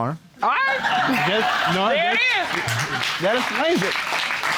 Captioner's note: audience laughing